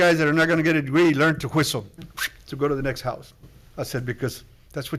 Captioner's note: whistles